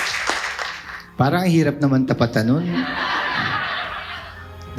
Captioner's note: laughs